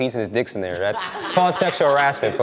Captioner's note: participants laughs